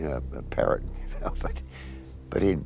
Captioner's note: chuckles